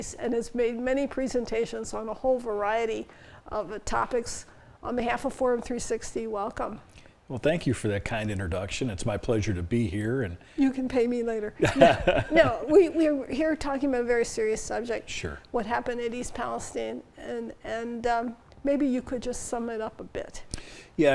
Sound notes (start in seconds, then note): 11.6 laughs